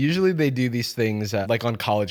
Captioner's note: none